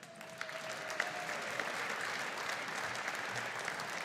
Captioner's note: audience applauding